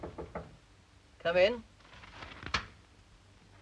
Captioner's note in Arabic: يطرق الباب; حفيف الورق